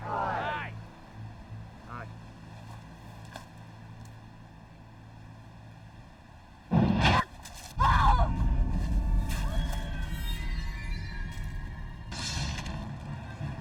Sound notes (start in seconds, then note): 7.7 screaming; 9.3 intense music